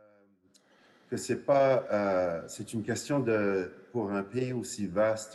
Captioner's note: speaks French